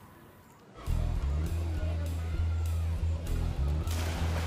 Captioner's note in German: Entferntes Stimmengewirr, Wasserplätschern